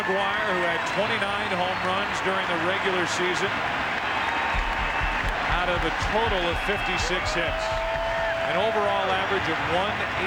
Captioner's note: cheers and applause